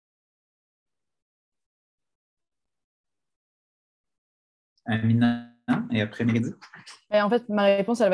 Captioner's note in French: silence